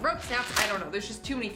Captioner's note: rope breaking